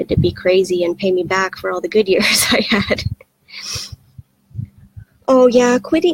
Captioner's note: laughs